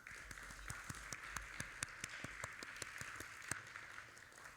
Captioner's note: audience applauding